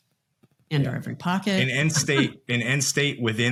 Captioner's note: laughs